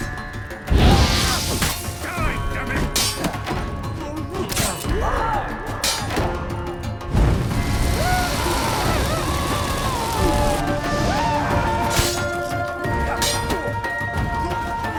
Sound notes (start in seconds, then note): 0.7 flames whoosh; 0.8 scream; 6.9 flames crackle; 10.9 screaming